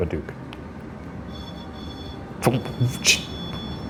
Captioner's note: REM-Pod beeping